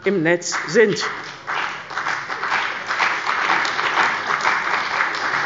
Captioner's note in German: Beifall bei der CDU und dem BÜNDNIS 90/DIE GRÜNEN